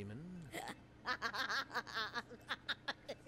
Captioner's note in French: rire moqueur